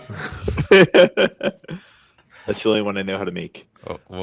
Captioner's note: laughs